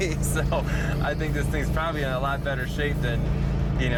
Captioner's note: chuckles